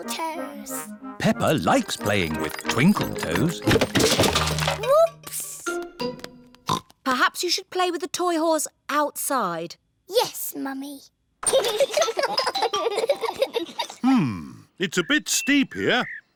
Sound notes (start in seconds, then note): 6.3 oinks; 11.5 both giggling